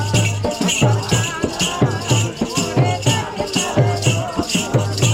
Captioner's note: chanting